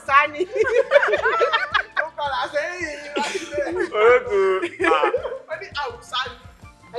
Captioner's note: everyone laughs